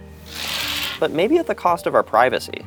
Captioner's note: scraping